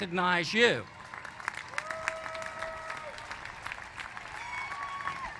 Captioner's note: applause